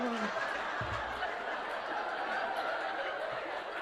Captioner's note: audience laughs